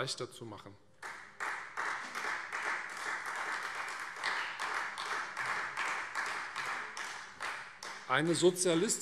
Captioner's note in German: Beifall Freie Demokraten